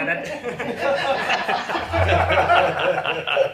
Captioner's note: laughter